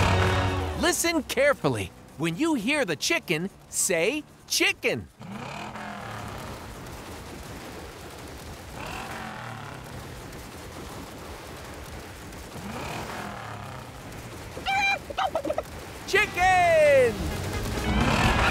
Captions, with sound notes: Listen carefully, when you hear the chicken, say chicken! [clucking] Chicken!